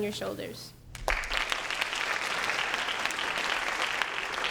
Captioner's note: applause